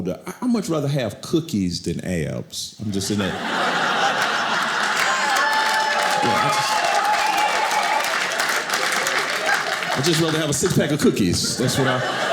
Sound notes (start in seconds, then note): 2.9 audience laughing; 5.4 audience cheering